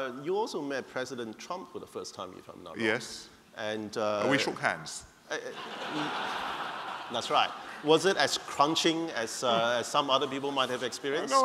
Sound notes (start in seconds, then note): 5.4 laughter